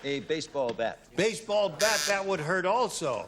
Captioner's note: buzzer